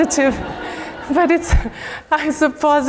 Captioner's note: laugh